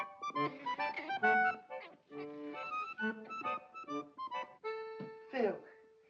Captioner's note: accordion plays; Rupert chitters